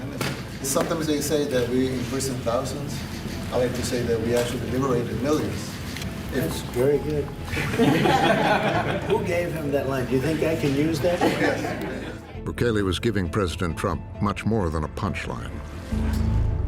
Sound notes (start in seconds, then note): 7.5 laughter; 11.0 laughter